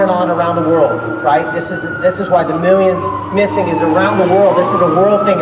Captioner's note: loud sirens